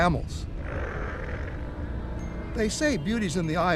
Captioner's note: camel grunts